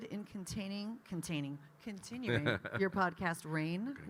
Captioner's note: Kyle laughing